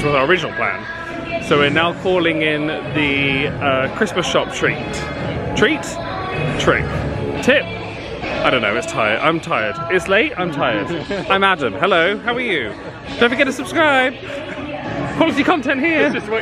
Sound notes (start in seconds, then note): 10.6 laughs